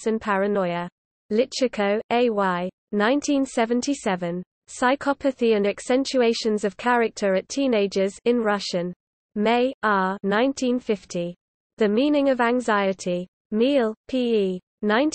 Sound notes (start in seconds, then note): 9.0 in Russian